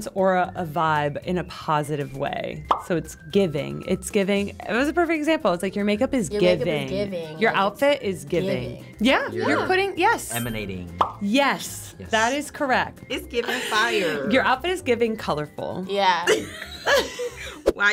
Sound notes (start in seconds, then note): 2.6 bubble pops; 10.9 bubble pops; 16.3 laughs